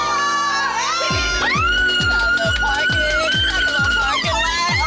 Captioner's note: screaming